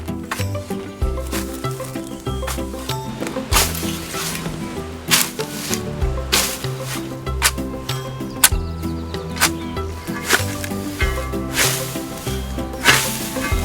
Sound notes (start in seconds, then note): 0.2 陽気な音楽; 5.1 ツールの音